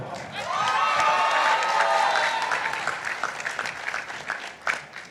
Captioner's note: participants applauding